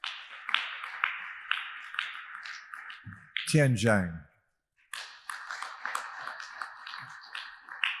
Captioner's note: audience applauding; audience applauding